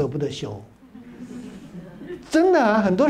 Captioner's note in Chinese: 哈哈哈